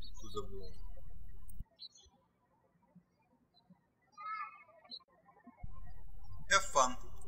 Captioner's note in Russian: птички щебечут